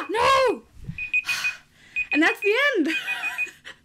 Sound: timer going off

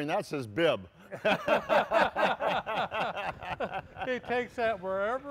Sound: laughing

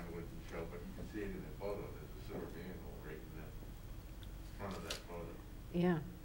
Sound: faintly speaking

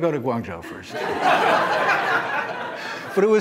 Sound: laughter

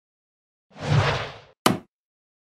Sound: swoosh, impact

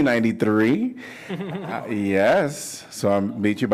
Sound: laughter

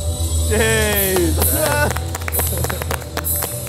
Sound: clapping

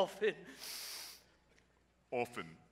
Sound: sniffs/sobs

